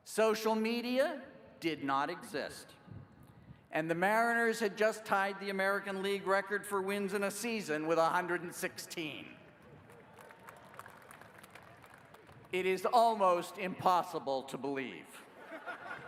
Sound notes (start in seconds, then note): 9.4 applause